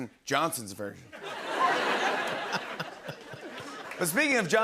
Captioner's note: laughter